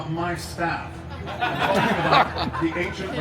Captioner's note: guests laughing